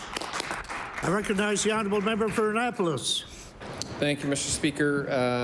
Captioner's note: applause